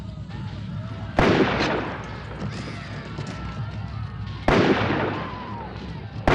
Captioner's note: gun firing